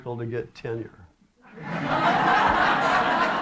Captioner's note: laughter